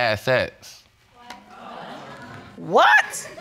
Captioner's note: audience exclaiming